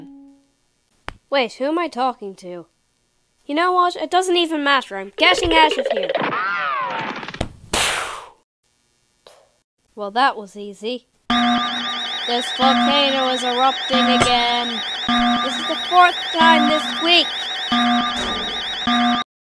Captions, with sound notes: Wait, who am I talking to? You know what, it doesn't even matter, I'm getting out of here! [Poof] Well that was easy. [Alarm] This volcano is erupting again... This is the fourth time this week! [Clang]